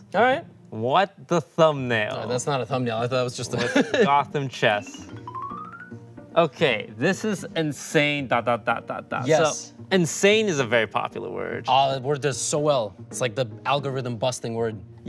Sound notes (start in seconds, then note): 3.5 chuckles; 5.1 light playful intro music